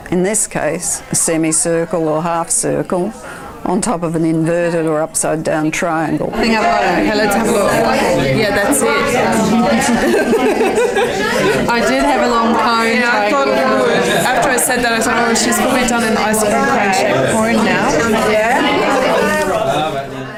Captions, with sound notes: In this case, a semicircle or a half circle on top of an inverted or upside down triangle. [audience chatter]